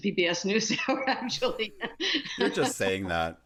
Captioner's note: laughter